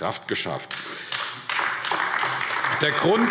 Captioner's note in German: Beifall AfD